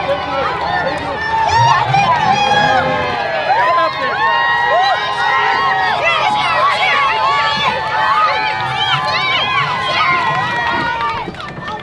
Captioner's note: cheering crowd